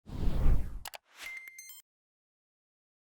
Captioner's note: swoosh